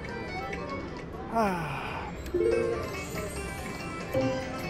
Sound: sighs

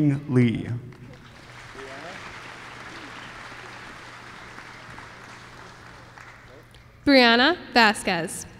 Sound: applause

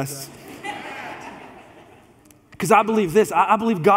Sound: congregation laughs

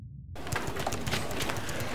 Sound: clicking, keyboards clacking

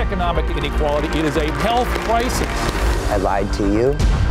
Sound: clapping

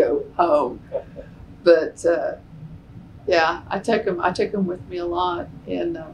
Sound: laughter

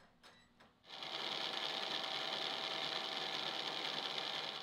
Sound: machine whirring

